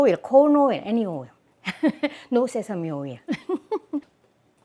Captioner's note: laughs